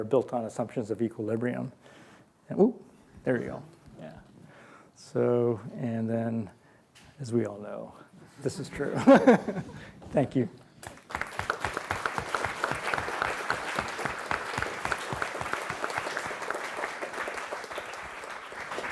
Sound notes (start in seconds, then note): 10.8 applause